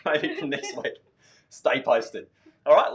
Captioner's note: laughing